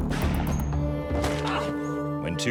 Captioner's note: moaning